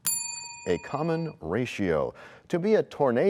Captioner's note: bell rings, time expires